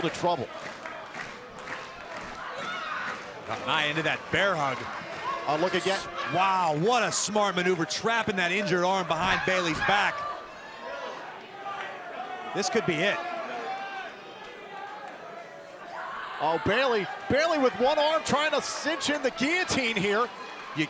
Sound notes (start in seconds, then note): 0.3 crowd cheering; 10.5 crowd cheering; 13.8 crowd cheering